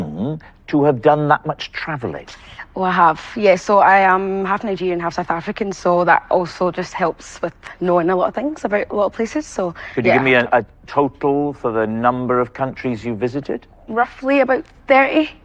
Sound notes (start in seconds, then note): none